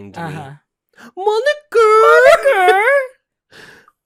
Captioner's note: high-pitched Filipino accent